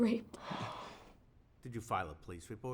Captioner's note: gasps